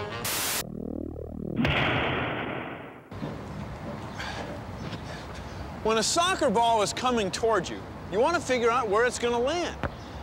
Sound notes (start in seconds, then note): 1.6 bang